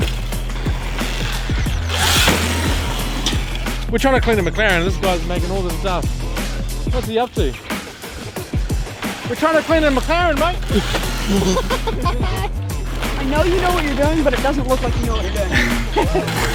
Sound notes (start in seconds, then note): 0.1 motor bike clatters; 1.9 motor bike revving